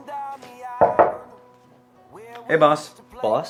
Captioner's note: knuckles rapping